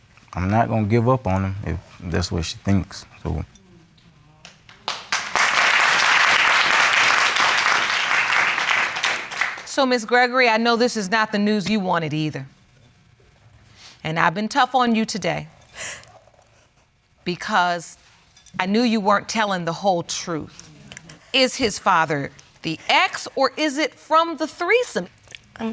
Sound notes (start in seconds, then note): 4.4 audience claps